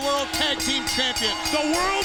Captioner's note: bell rings